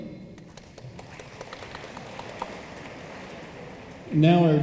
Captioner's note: room applauds